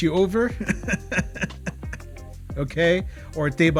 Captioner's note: laughter